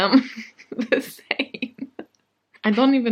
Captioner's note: sad laugh